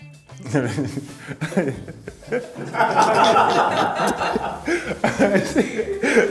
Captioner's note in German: lacht los